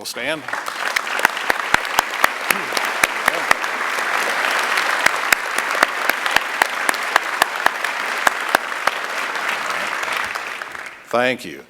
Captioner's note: applause